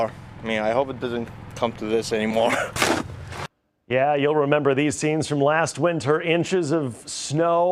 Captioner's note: spinning wheels